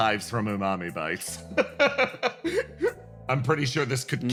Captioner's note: laugh